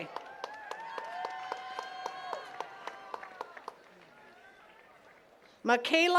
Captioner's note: attendees cheering and clapping